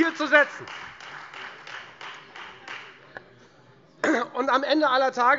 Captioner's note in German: Beifall Freie Demokraten